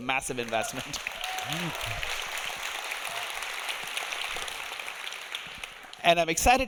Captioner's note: audience applauding; audience cheering